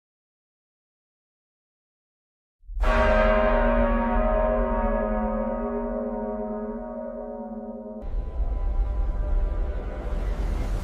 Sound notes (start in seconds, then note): 0.0 SILENCE - complete darkness; 2.7 bell chimes - three deep strikes, spaced to awaken consciousness